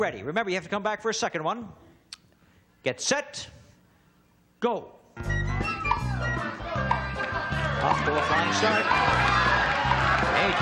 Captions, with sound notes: Are you ready? Remember, you have to come back for a second one. Get set, go. -(cheering) -Off to a fine start.